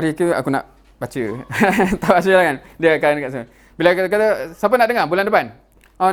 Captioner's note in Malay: ketawa